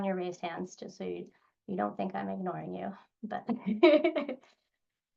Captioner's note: laughs